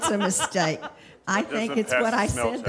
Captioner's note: laughing